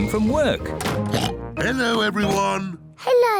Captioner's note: oinks